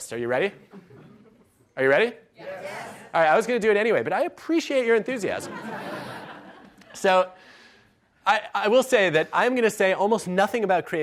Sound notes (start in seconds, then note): 5.4 laughs